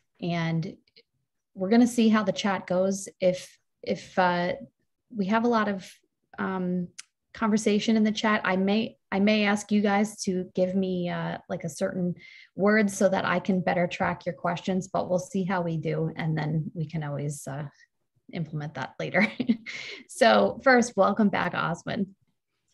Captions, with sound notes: And we're gonna see how the chat goes. If we have a lot of conversation in the chat, I may ask you guys to give me like a certain word so that I can better track your questions, but we'll see how we do and then we can always implement that later. (laughs) So first, welcome back, Oswin.